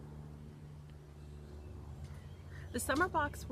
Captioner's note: airplane whirring